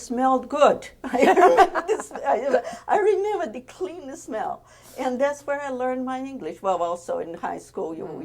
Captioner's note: laughs